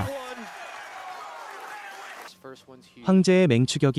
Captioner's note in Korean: 환호